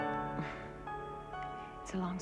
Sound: chuckles

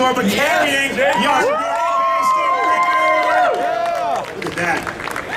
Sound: audience cheering

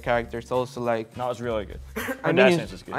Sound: person coughs

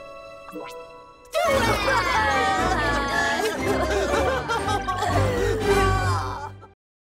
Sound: gentle music; fun music; all crying

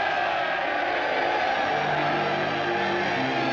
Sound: cheering

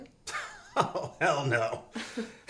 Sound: Eric laughs

